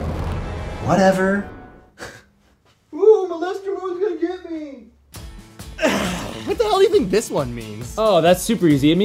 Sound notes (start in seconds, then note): 1.7 scoffs